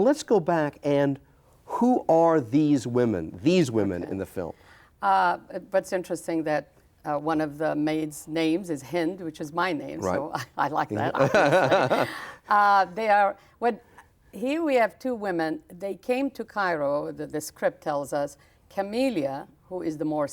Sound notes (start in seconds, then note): 11.1 chuckles